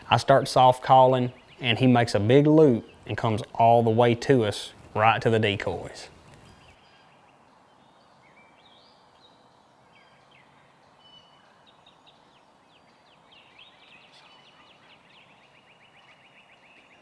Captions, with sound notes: I start soft calling and he makes a big loop and comes all the way to us, right to the decoys. (nature sounds)